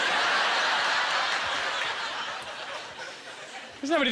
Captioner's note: audience laughter